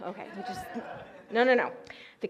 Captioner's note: audience shouts